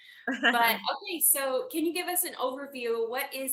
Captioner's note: laughs